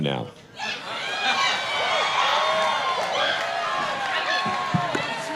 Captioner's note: audience applauding